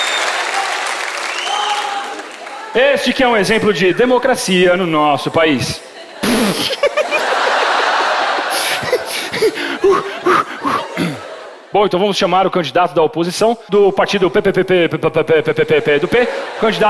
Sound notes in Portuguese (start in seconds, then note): 5.7 riso; 8.4 respira fundo